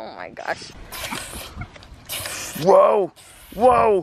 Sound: making gun sounds

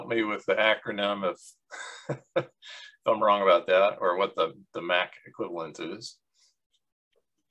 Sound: laughs

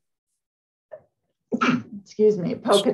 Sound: sneezes

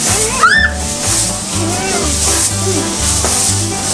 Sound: screams

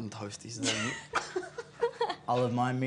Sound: laughter

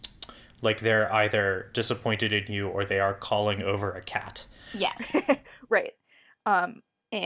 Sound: laughs

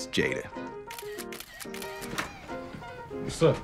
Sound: camera snapping

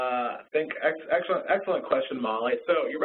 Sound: voiceover

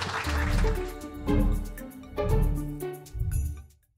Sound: laugh

